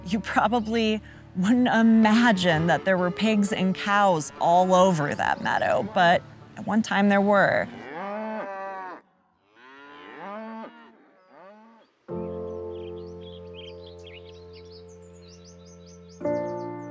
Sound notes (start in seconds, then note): 9.4 cows mooing; 12.1 piano music